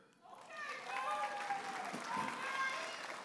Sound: audience applauding and cheering

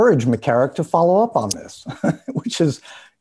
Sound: laughs

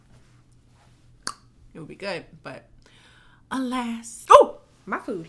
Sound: tongue popping

